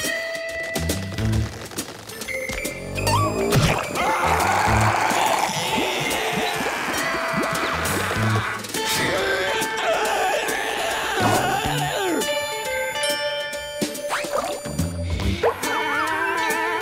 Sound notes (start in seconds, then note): 3.8 screaming; 8.8 grunting